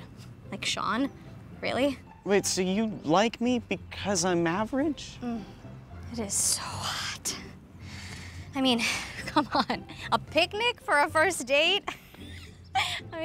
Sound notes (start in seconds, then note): 7.7 heavy breath; 12.3 laughs